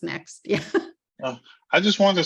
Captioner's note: laughing